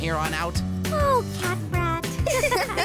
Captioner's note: giggling